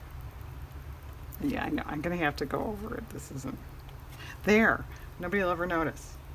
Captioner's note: sarcastically